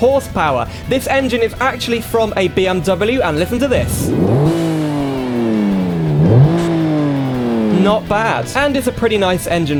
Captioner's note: engine Revs